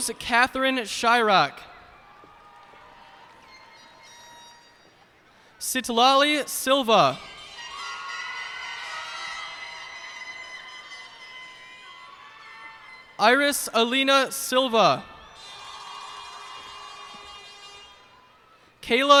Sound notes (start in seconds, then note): 1.2 cheers and applause; 7.0 cheers and applause